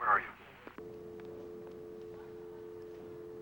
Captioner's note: dial tone